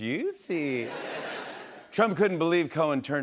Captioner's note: laughter